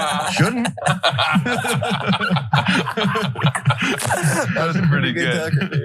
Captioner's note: laugh